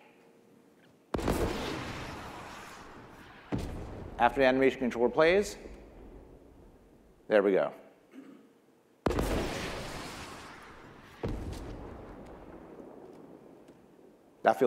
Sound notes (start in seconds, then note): 9.0 rocket launch; 11.4 explosion